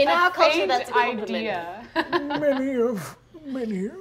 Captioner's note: laughing